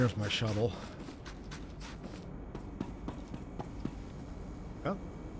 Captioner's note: footsteps